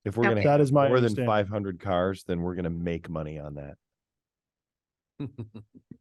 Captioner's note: laughs